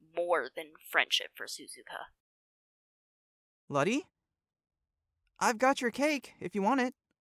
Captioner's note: none